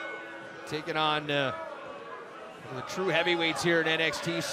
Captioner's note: bell